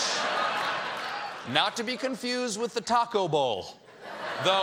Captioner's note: laughter